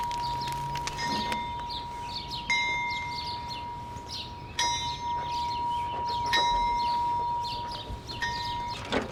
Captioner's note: fire sounds; bell tolls